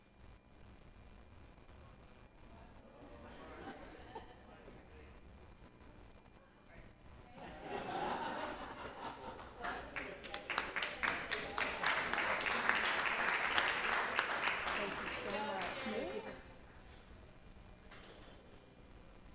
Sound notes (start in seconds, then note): 7.4 laughing; 9.2 audience applauding